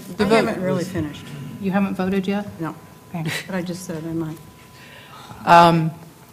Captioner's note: laugh